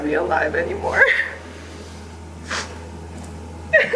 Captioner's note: sobbing